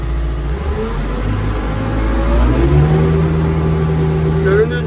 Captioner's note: car sound